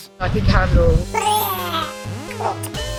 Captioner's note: tinkling Sound, Cartoon Vomit Sound